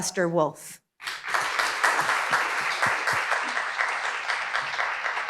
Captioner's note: audience applauding